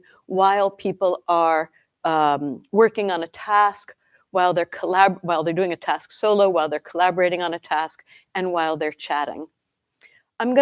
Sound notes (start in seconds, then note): none